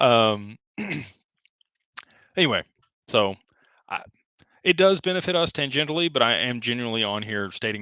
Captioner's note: clears throat